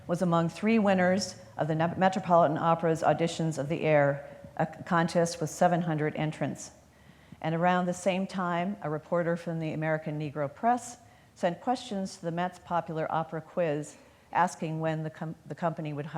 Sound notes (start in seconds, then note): none